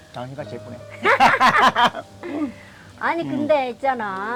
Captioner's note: both laughing